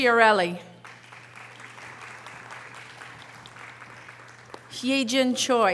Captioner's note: audience applause